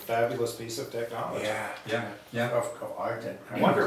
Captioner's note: chatter